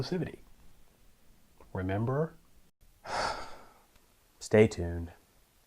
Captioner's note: sigh